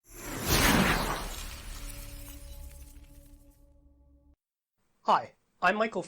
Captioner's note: swoosh